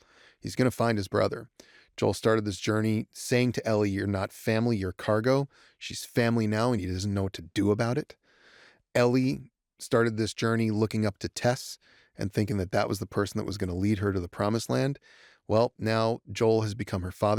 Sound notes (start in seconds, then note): none